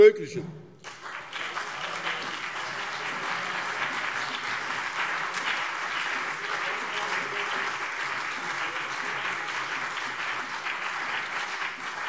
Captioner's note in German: Beifall BÜNDNIS 90/DIE GRÜNEN und CDU